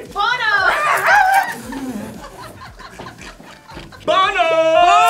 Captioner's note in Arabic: كلاهما يصرخ